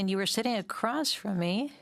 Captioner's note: speaking French